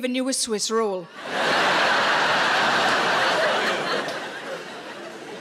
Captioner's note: audience laughs